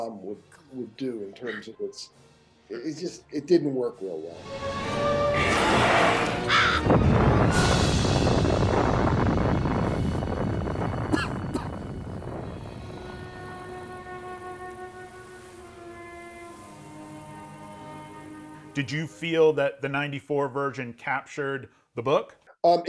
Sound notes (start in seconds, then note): 5.1 dramatic music; 6.2 bird cawing; 6.8 bomb exploding; 11.1 man coughing; 13.8 gentle music